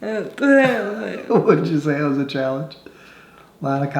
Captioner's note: laughing